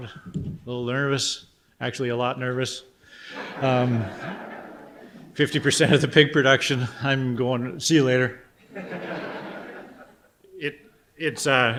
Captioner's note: audience laughter